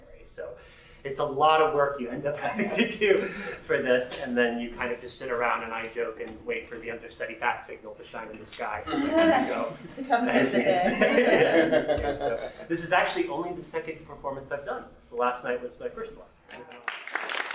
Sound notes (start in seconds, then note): 10.5 laughter; 16.7 applause